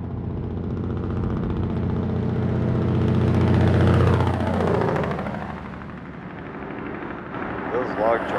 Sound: big Truck with engine brake

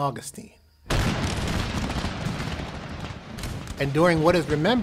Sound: war/battle sounds, cannons

